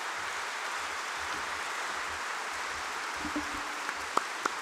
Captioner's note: applause